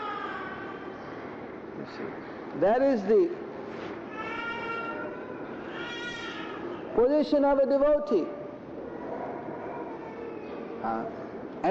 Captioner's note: baby crying in background